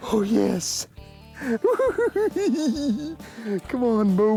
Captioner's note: giggling